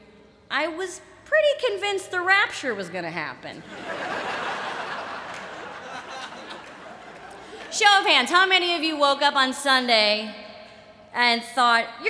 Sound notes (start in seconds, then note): 3.6 laughter